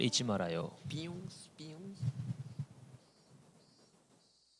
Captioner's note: imitating cicada sounds